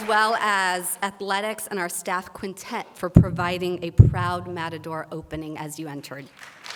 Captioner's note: applause